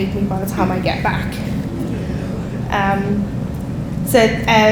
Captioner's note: audience laughing